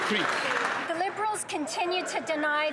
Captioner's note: some Applause